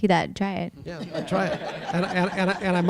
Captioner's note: audience laughing